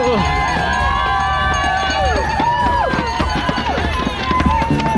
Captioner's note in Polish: Aplauz